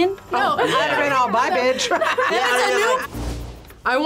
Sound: laughs

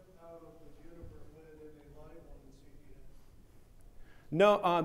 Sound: speaking faintly

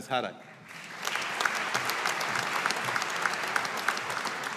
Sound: audience applauding

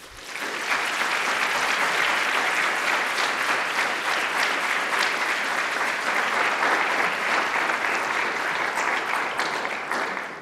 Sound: applause

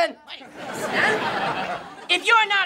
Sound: laughing

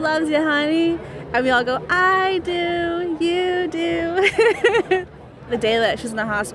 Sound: laughs

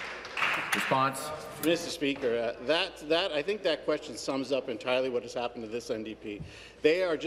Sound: applause

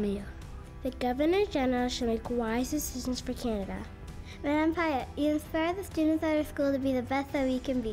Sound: speaking French

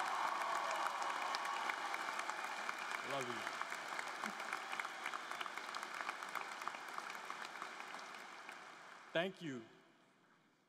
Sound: applause; cheers and applause

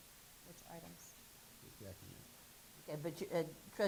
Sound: murmuring

